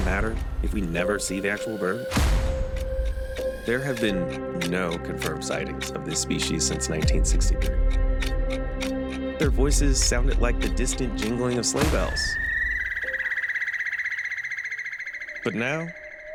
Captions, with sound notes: Does an offensive bird name matter, if we never see the actual bird? (fast-paced chirping) There have been no confirmed sightings of this species since 1963. Their voices sounded like the distant jingling of sleigh bells. But now,